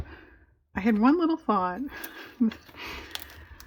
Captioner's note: laughs